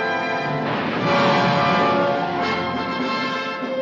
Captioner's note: bomb exploding; triumphant music